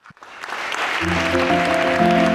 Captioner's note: audience applauding